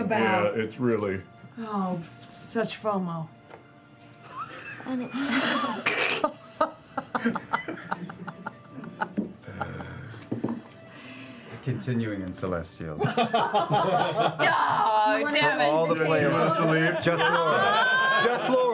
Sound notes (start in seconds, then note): 4.2 laughter